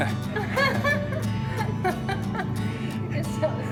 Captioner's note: laughing